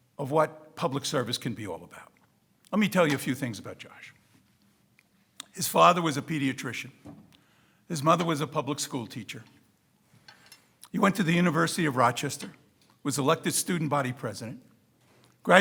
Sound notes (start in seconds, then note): none